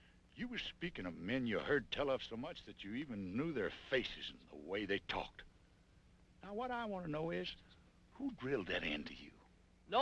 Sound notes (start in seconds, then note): none